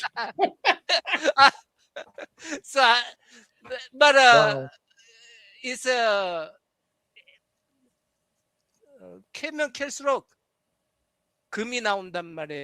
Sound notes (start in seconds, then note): 0.0 laughter; 9.0 non-english speech